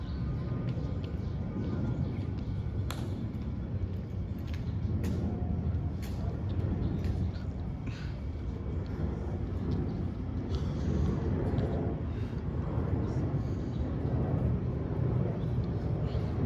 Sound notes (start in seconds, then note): 2.8 clicks feet and rifling